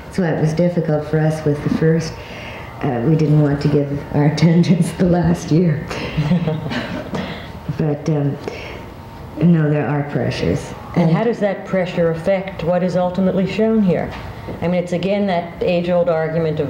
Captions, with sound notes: So what was difficult for us, was at first we didn't' want to get our attendance the last year. (laughs) But no, there are pressures. - And how does that pressure affect what is ultimately shown here? I mean it's again that age old argument